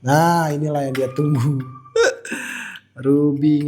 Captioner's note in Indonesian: tertawa